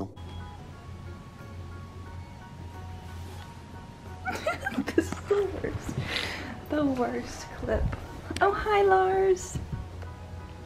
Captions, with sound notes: *laughs* this is the worst the worst clip oh hi Lars